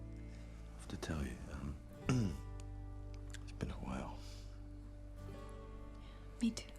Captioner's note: throat clears